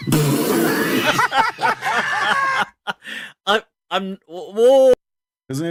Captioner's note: Ketawa